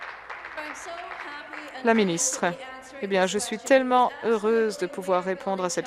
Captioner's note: applause